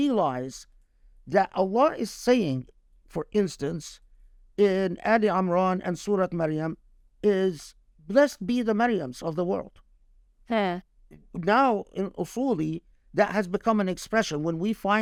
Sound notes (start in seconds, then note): 4.1 speaking Arabic